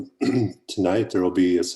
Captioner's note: clears throat